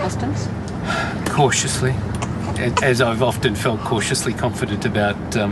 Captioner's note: sighs